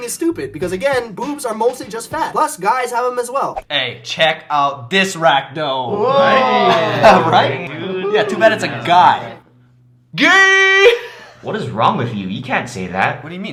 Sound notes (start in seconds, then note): 9.3 silence; 11.3 laughing alone